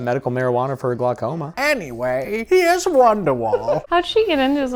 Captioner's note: old lady voice